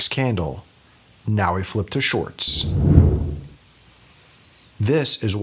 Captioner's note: whooshing